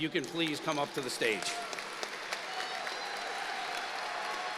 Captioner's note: applause